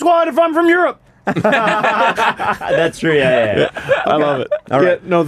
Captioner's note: laughter